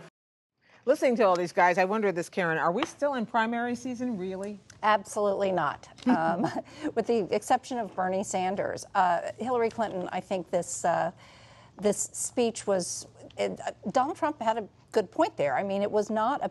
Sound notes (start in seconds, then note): 6.8 laughs